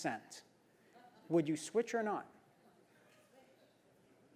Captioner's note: laugh